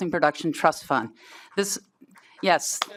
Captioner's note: applause